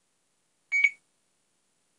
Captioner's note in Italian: beeep